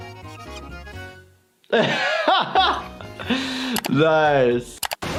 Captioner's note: triumphant music; laughs